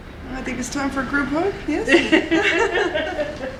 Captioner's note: laughter